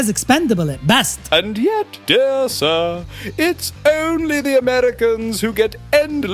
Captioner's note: pompous